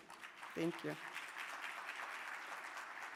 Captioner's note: audience applauding